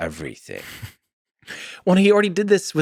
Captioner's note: Tim laughs